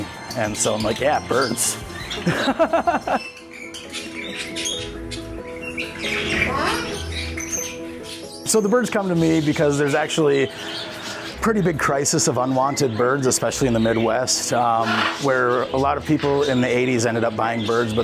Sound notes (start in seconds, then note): 2.1 laughs; 3.8 birds chirping